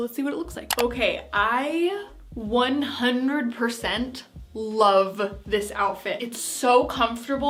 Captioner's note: clicking